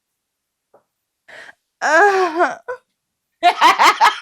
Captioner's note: inappropriate moan